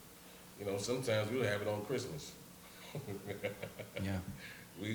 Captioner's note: laughs